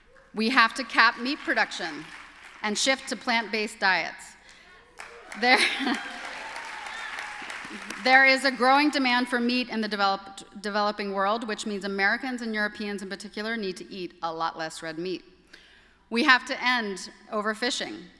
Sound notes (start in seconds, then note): 4.4 applause